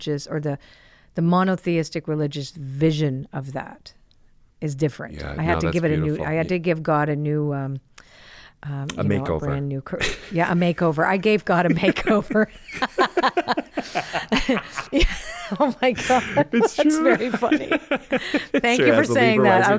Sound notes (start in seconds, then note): 12.5 both laugh